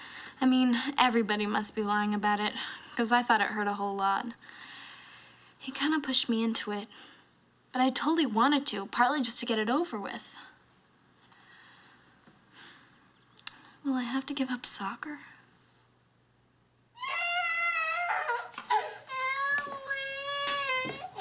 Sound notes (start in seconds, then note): 12.3 sighs; 17.0 allison crying